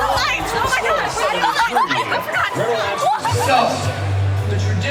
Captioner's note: crowd cheers; talking and laughing